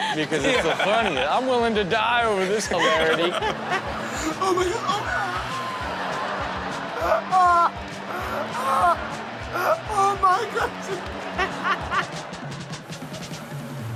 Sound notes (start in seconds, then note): 0.0 audience laughs; 3.4 audience laughs; 6.0 audience laughs; 7.0 background laughter; 9.7 audience laughs